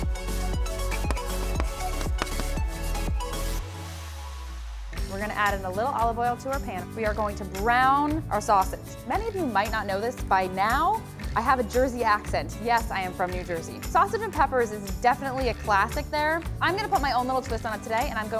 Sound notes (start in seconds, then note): 1.9 chalk writing